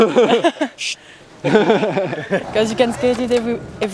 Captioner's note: laughing